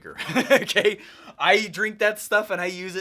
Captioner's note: laughs